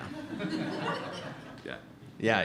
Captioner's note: laughs